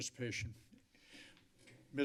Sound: inhales

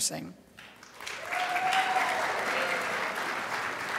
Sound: crowd applauds

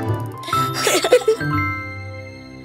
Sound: laughing

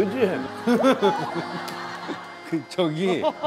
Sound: I'm not really laughing

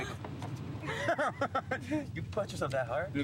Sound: all laugh

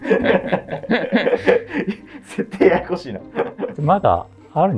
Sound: laughing

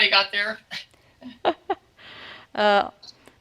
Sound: laughs

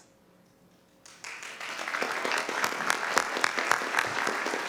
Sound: applause

